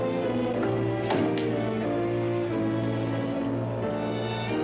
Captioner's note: panel thumps shut; dramatic ominous music